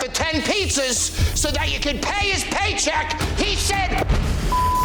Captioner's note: beep